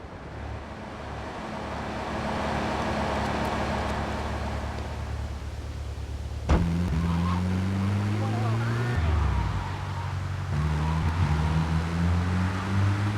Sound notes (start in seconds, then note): 5.8 car engine roaring